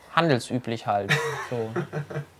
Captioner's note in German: Lachen